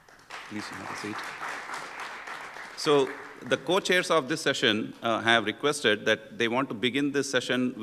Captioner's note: applause